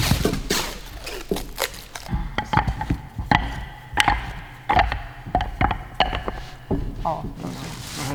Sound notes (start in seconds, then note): 2.6 clacking